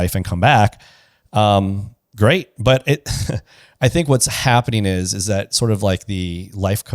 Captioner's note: laughs